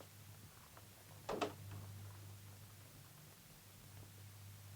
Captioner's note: door closes